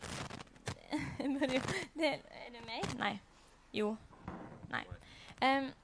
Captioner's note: causing the static